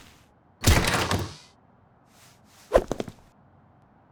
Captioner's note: door slams